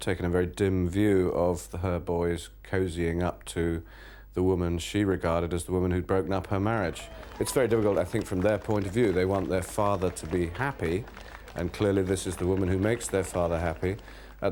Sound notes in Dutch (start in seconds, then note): 7.3 publiek applaudisseert